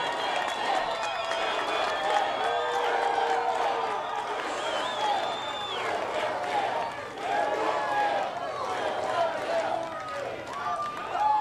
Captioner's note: chanting